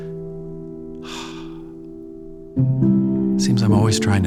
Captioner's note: sighs